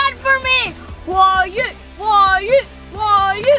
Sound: chanting

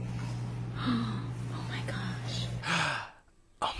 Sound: gasps

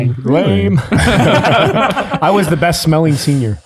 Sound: group laughs

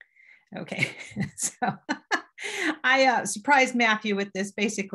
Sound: laughs

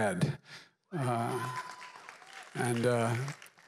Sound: applause

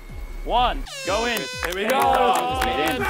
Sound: horn blowing; clapping

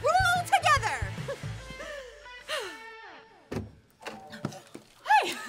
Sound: June laughs and sighs

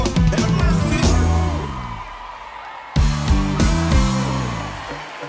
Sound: crowd cheering

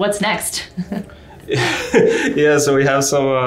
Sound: laughing loudly

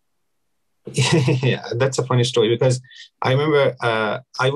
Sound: laughs

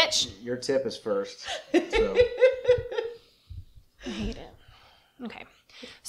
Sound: laughter

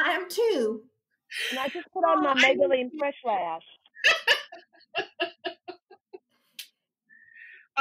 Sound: laughter

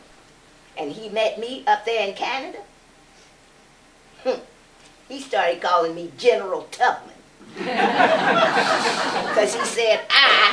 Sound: laughter

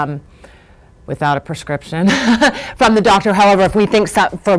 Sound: laughs

